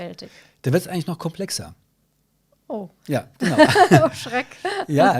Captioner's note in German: lacht